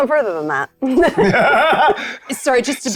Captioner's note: players laughing